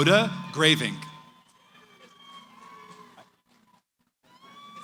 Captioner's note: cheering